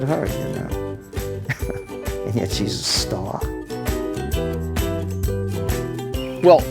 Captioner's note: chuckles